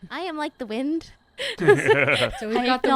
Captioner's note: laughter